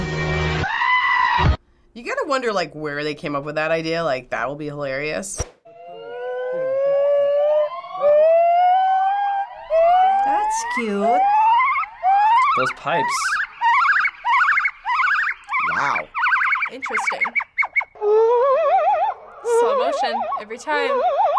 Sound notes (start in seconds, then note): 5.5 high pitched howling